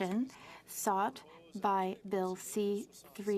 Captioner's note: speaking French